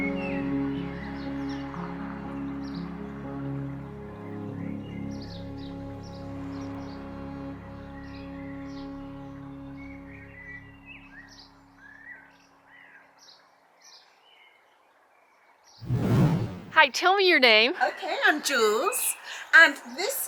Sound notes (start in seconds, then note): 6.8 song ends; 11.2 birds chirping